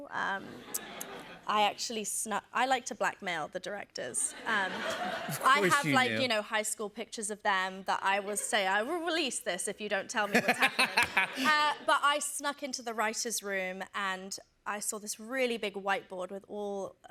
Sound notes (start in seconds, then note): 4.3 laughter